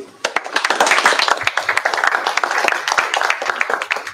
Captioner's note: applause